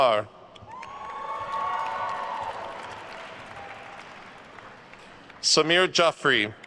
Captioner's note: attendees cheering and applauding